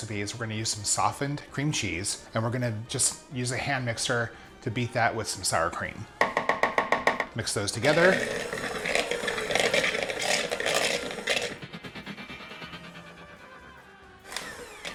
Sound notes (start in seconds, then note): 7.8 mixer slowly whirring; 11.6 rapid vibrating